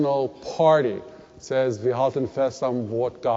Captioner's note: German spoken